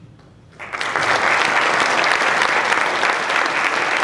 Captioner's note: applause